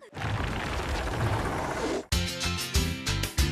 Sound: rumbling; upbeat Music

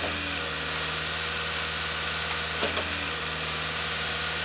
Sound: concrete pump whirring

